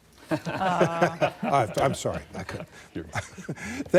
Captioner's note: laughter